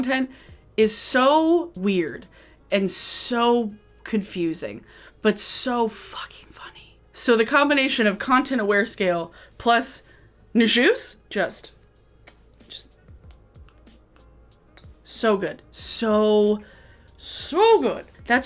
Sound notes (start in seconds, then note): 12.2 kisses